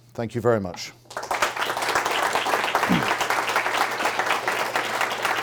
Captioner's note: audience clapping